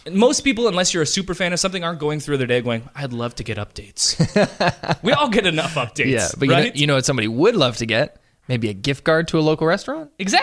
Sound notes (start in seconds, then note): 4.0 laughs